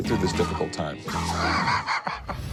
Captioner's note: laughs